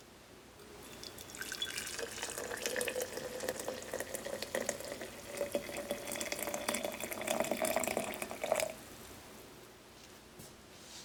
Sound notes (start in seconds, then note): 1.0 splashing sound of water